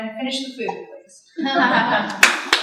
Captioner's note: laughter; applause